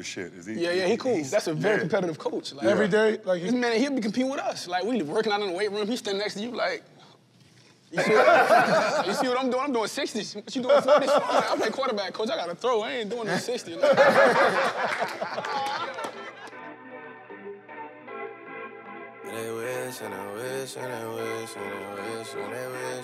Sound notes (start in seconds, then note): 13.2 laughter